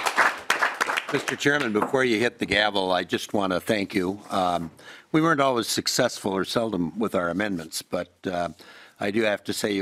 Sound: applause

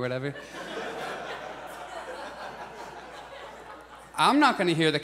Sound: audience laughs

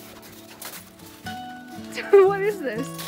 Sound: laughing

